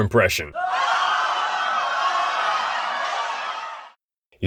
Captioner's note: screams of terror